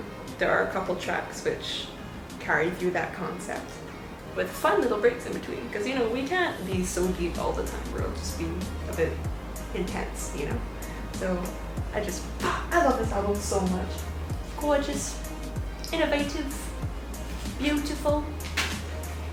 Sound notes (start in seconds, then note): 14.5 in a bad British accent